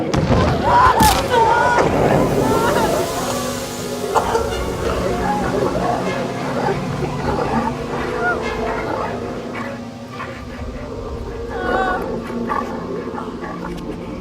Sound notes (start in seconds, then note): 1.8 burnt flesh hissing; 5.4 growling; 11.3 breathing winding down